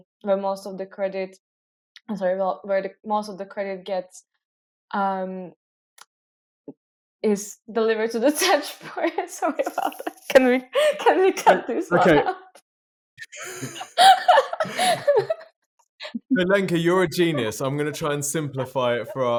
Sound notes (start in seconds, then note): 9.4 laughing